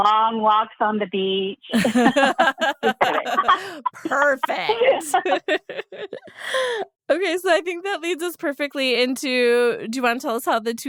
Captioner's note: all laugh